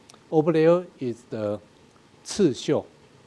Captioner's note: speaking in a foreign language